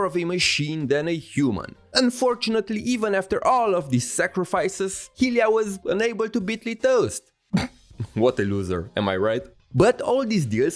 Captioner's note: chuckle